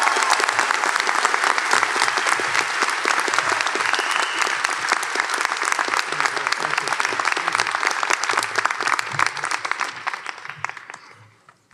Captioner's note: applause